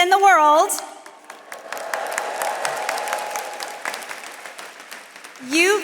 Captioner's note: attendees cheering and applauding